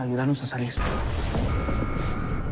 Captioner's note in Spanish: Alarma; Estruendo